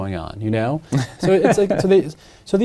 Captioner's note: laughs